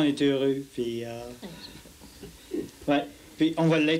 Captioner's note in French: rire